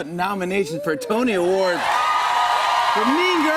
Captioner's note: cheers and applause